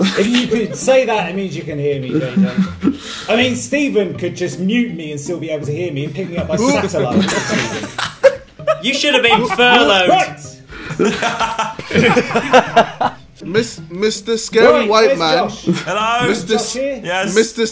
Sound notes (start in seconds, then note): 6.4 murmurs; 8.2 students laughs; 10.7 students laughs